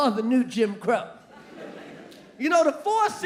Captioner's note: audience laughing